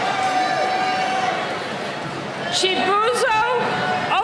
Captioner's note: cheering